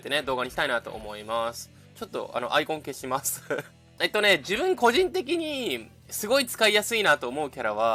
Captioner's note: laughter